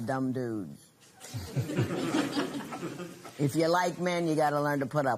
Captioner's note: laughter